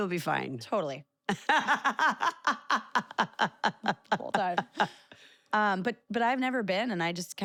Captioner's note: laugh